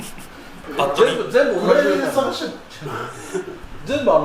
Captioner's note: laughs